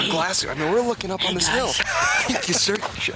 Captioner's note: chuckling